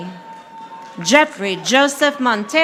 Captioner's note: audience applauding